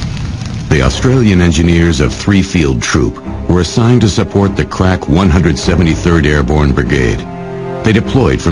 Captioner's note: crack